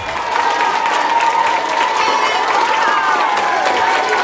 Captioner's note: students cheering